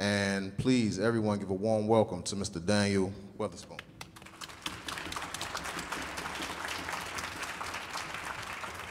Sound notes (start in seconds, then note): 4.0 audience applauding